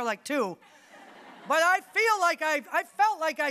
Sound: audience laughing

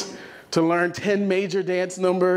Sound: none

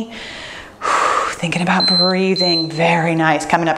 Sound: timer beeps

